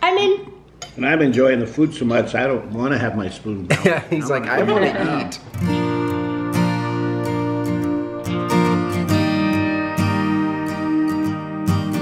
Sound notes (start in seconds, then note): 4.4 laughs; 4.6 lighthearted guitar music